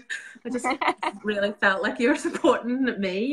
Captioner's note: both laughing